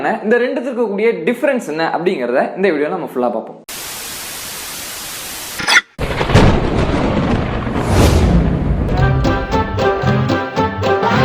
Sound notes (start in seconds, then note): 3.5 signal scrambles; 6.0 thunder rumbles; 8.9 notorious music plays